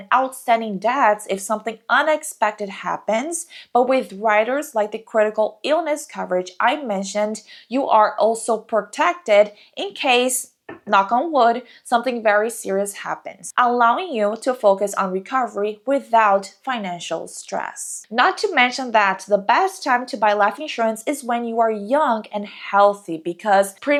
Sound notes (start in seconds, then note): 10.7 knock on wood